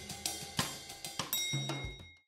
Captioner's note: soft bell ding